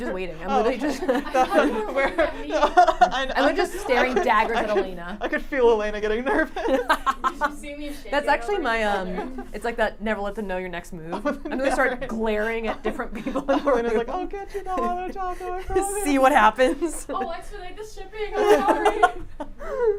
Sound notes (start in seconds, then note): 0.6 everyone laughs; 5.1 laughs